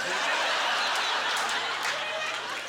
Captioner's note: audience laughter